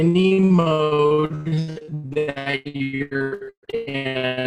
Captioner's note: robotic sounds